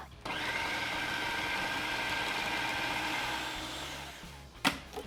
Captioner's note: blender whirring